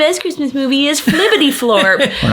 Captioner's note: laughing